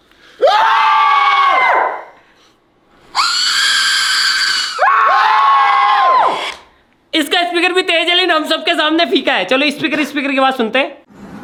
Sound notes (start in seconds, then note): 0.3 screaming by boys; 3.1 screaming in phone; 3.1 screaming by boys